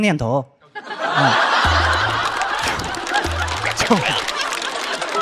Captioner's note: laughing out of frustration